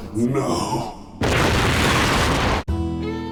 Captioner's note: kaboom